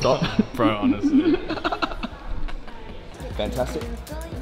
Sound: laughing

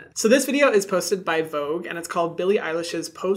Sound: none

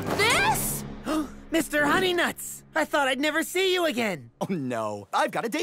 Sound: gasp

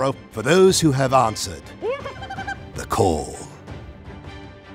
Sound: bird call

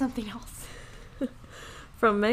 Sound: laughing

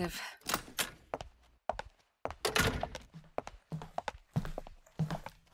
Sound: door opens then closes

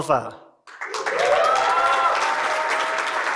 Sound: cheering and applause

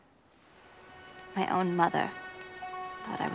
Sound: crackling

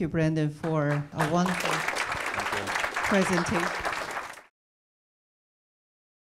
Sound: audience clapping

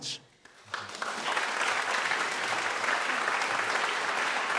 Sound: applauding

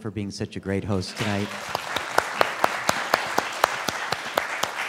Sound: students clapping

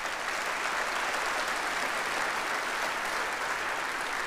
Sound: audience applauds

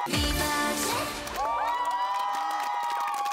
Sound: cheering

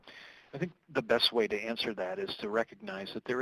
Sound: voiceover

